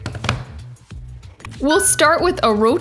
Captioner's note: hands tapping